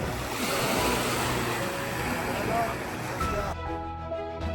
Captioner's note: sound of waves